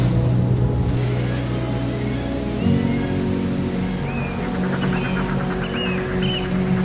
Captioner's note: birds calling